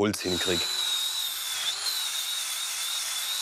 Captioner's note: high-pitched machine whirring